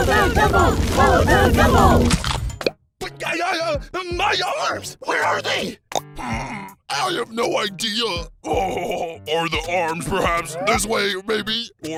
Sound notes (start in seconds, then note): 0.0 everyone, chanting; 3.0 stammers